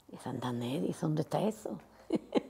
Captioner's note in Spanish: ríe